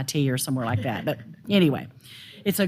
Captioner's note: laugh